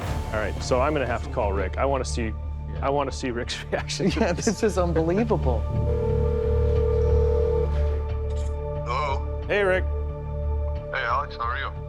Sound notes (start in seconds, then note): 5.8 phone ringing